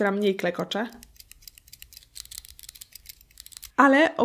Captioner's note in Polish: Klekotanie